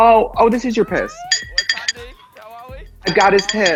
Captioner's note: clanks